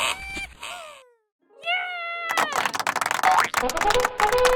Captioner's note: person cheers; applause; triumphant fanfare